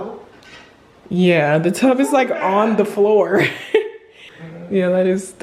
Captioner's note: laughs